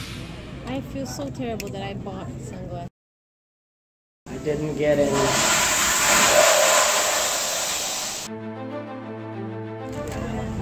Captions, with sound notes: "I feel so terrible that I bought sunglass..." I didn't get any *toilet flushing*